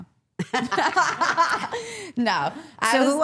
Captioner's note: all laughing